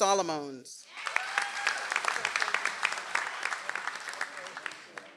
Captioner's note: audience applauds